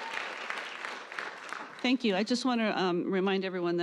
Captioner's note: applause